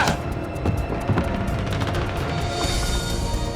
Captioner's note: grunting; dramatic music